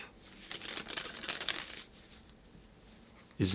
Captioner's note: cards gently cascading